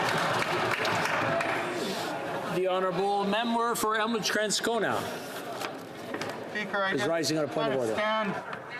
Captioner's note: applause